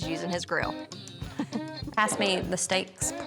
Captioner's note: chuckles